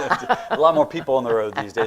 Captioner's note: laughs